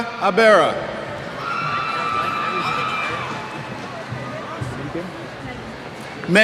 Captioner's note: cheers